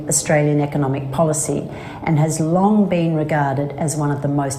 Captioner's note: non-english speech